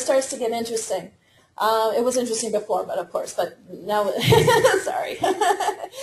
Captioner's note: laughter